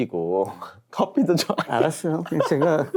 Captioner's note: laughs